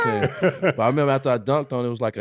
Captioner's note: falsetto screaming; laughing